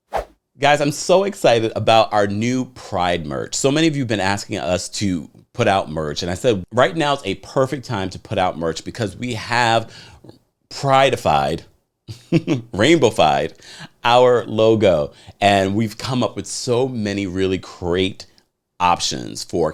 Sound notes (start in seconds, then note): 0.0 whoosh; 12.1 chuckles